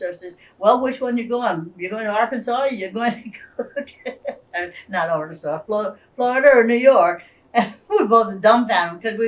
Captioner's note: laughs